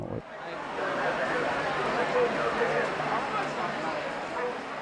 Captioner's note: audience chattering